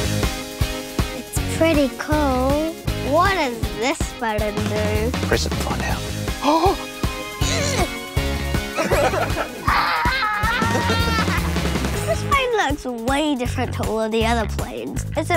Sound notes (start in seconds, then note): 7.0 gasps